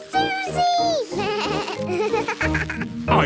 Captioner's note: bleating, laughing